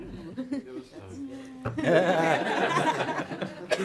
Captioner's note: laughter